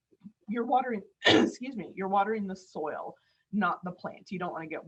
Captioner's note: coughs